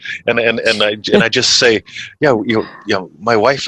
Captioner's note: chuckles